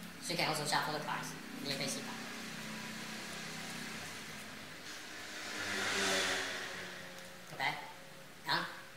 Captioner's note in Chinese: 機車聲